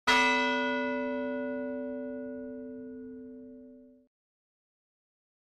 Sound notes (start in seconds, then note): 0.2 bell rings